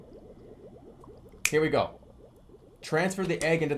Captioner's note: snaps